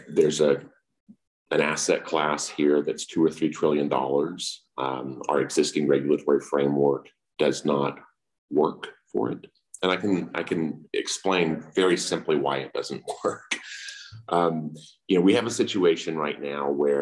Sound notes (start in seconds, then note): 13.0 laughs